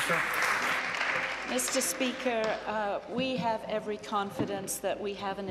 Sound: applause

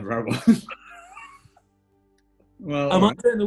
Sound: laughter

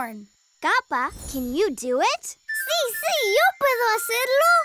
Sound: none

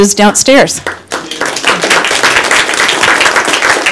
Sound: applause

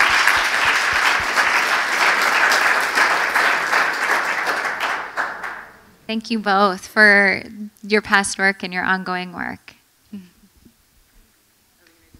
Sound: applause

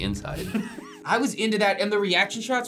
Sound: React laughs

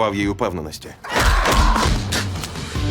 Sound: man groans; spits

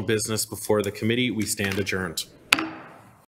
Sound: gavel taps

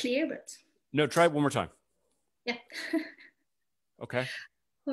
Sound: chuckles

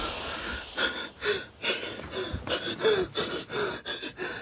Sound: gasps; breathes rapidly

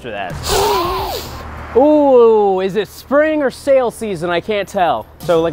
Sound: sharp inhale

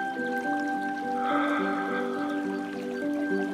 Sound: sighs

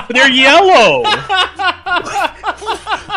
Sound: laughs; hyperventilating

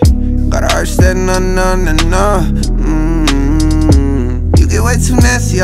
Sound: mmmm

